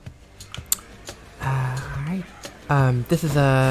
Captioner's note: distorted high-pitched "ha!"